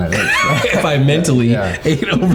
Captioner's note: all laughing